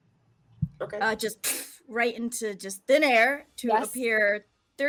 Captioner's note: imitates poof sound